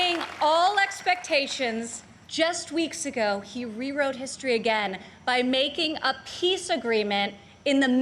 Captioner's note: applause